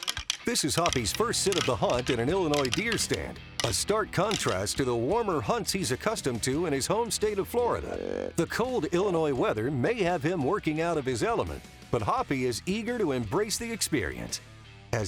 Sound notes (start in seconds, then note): 8.1 grunt call croaking